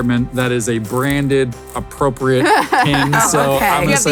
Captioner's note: laughs